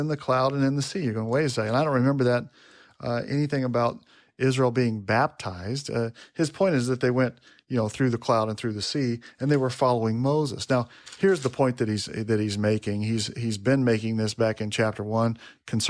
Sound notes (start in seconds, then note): none